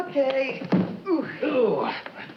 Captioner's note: Brad grunts